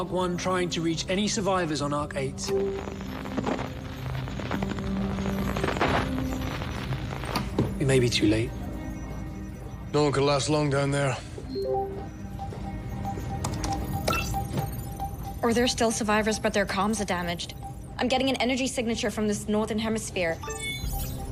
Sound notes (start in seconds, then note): 2.0 static; 11.8 beeping